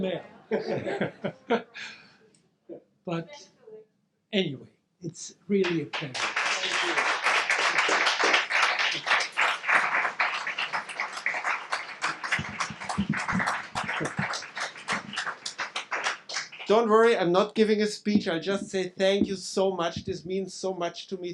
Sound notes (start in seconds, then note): 0.5 audience laughing; 5.6 audience clapping